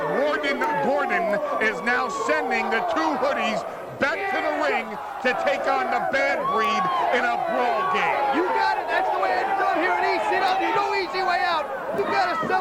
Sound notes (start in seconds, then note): 1.2 crowd cheering